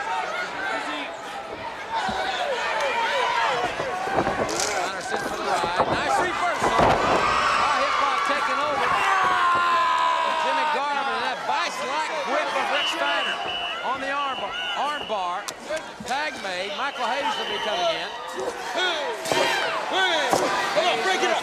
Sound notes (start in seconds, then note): 8.6 audience cheers